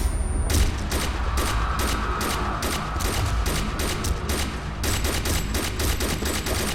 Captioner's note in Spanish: Disparos